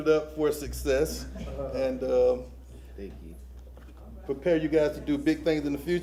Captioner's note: laughter